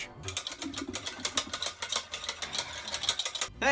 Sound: tapping

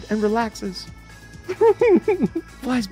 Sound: laughs

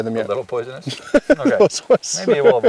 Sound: laughing

